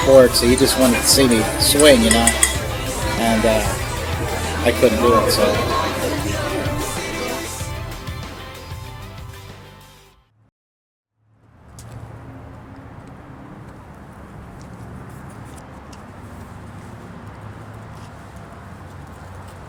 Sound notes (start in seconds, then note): 11.5 distant sounds of traffic